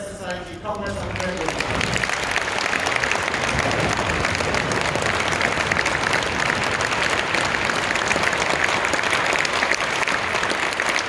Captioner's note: applause